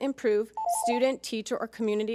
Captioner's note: timer chimes